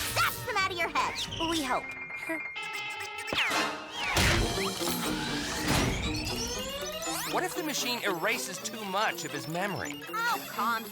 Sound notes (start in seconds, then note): 2.6 chuckles sheepishly; 4.4 machine whirs